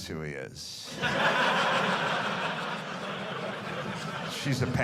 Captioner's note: audience laughing